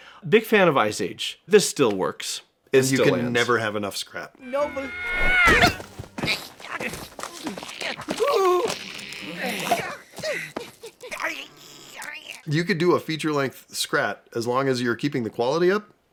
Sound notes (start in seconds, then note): 4.5 scream; 8.4 whimpers